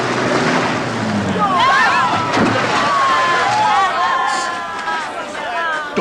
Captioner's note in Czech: řev motoru; křik, panika